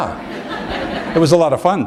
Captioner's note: chuckle